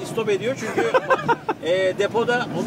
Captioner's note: laughings